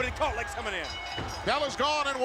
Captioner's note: bell ringing